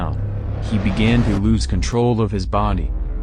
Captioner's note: bang!!!